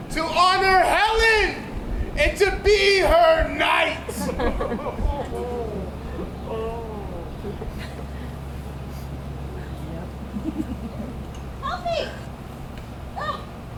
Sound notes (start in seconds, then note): 3.4 audience laughs